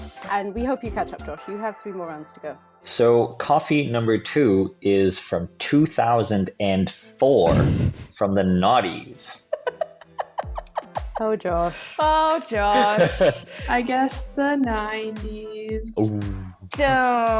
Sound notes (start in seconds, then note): 9.5 laughing